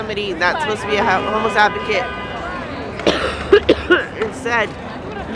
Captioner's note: coughs